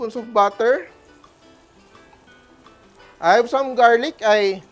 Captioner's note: sizzles